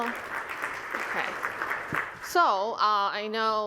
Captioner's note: applause